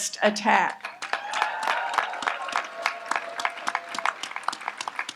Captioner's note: audience applauds